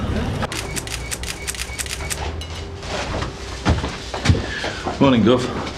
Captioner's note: camera shutter clicking